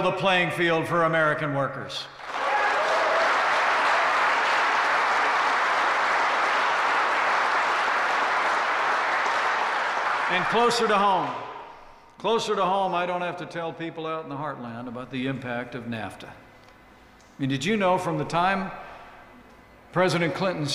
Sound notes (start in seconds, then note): 2.2 applause